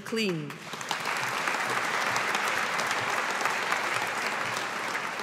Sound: audience applauding

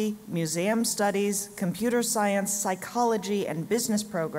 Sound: none

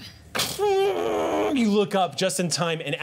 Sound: imitating shrieking metal

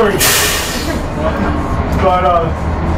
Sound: laughs

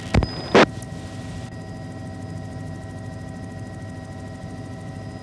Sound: engine whining

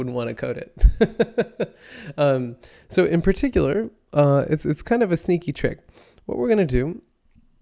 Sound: laughs

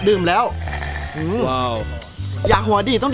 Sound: sucking

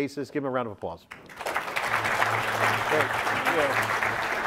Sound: audience clapping; upbeat music

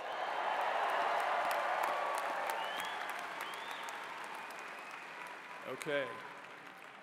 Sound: cheers and applause

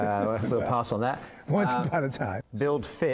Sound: laughter

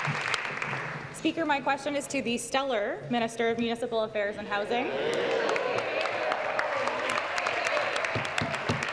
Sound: some Applause

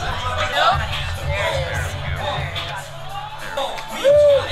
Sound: group chattering

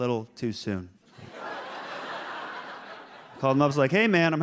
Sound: audience laughs

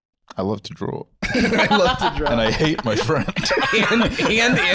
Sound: laughing

